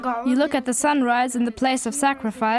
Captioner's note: boy's English Voiceover